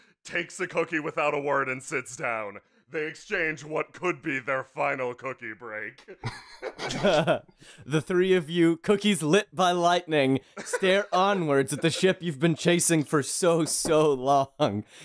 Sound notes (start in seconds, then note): 6.0 laughter